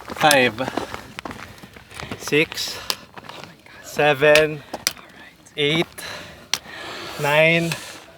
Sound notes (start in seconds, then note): 4.2 trekking pole thumping